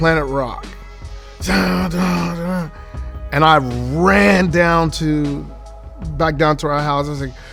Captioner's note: humming